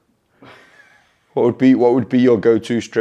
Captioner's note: snickers